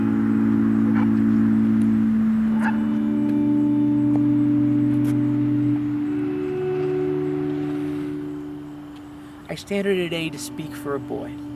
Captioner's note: sound of the night and dogs barking